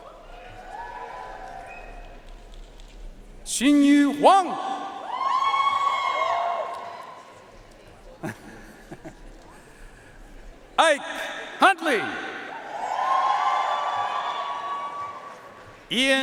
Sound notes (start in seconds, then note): 0.0 audience cheering and applauding; 5.0 audience cheering and applauding; 8.2 Announcer laughing; 12.4 audience cheering and applauding